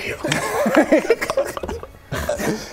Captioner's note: deeply offended clicky gross monster noises